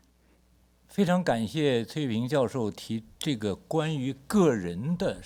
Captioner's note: speaks Mandarin